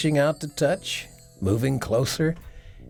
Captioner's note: bells chiming